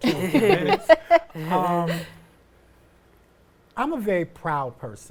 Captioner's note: all chuckling